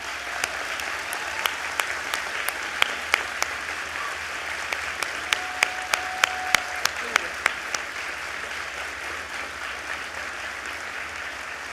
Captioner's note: applause